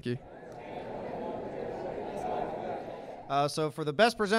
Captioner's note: crowd chatter